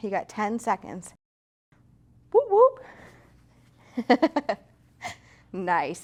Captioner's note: laughs